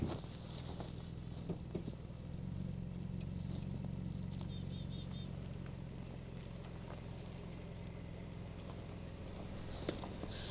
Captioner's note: car engine; heavy breathing